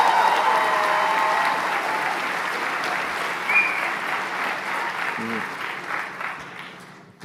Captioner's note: applause; cheering